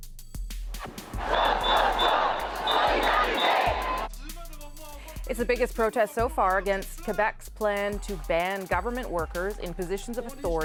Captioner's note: chanting